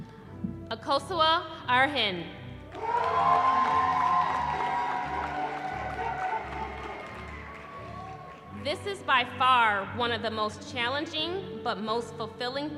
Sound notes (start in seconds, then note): 2.7 cheering